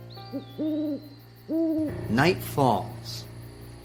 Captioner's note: gentle music; owl prattling